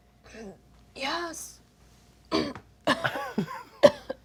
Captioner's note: coughing